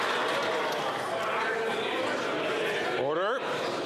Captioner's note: applause